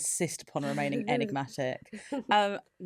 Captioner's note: laughs